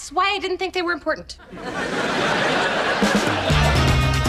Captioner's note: audience laughs; upbeat music